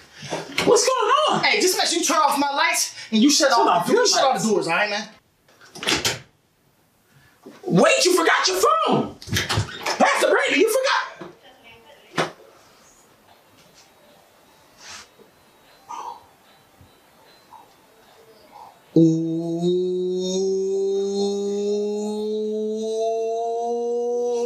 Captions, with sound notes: What's going on? Aye, just make sure you turn off my lights and you shut all my doors. Alright, man? (door slams) Wait, you forgot your phone. Pastor Brandon, you forgot... Eeeeeeeeew...